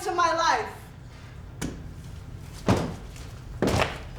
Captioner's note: stomping